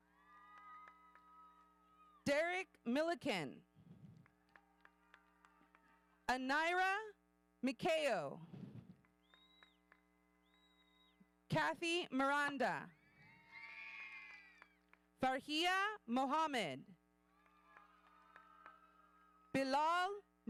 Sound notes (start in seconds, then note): 0.1 audience cheering; 4.3 audience applauding; 9.2 audience member whistling; 13.0 audience cheering; 17.3 audience cheering